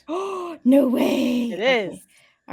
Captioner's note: gasps